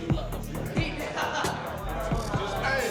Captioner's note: laughs